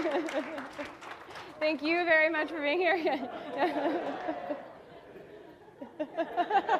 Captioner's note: laughs